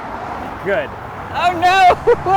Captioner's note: laughs